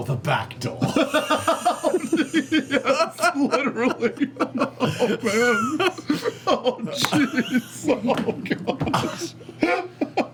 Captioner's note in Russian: смеётся